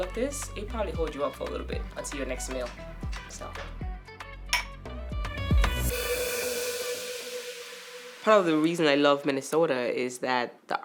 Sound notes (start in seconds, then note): 4.5 glasses clink; 5.5 lively upbeat music swells